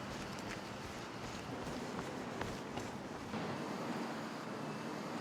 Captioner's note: footsteps receding